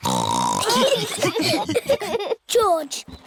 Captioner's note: snorts; laughter